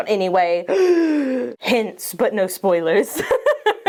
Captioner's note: gasps; laughs